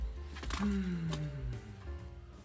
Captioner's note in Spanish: suspiro de alivio